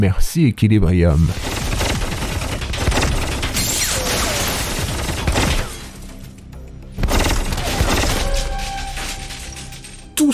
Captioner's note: sounds of a futuristic fight between a robot and a hockey fan